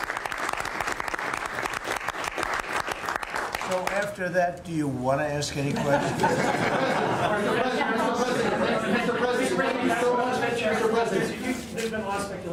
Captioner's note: applause